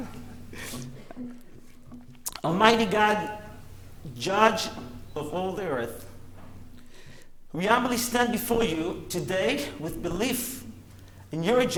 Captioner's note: laughter